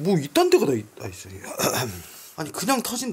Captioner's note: clear his throat